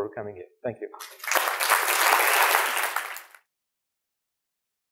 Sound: audience applauding

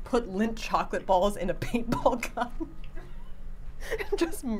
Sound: laughing

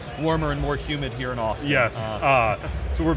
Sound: laughing

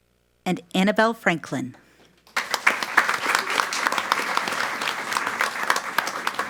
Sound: audience applauds

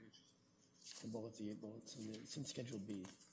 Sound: quietly

